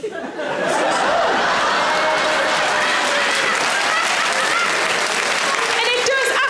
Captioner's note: audience laughing; audience applause